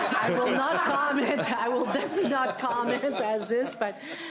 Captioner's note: laughter